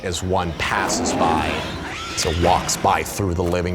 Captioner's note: screaming